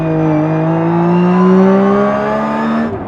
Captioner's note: car roars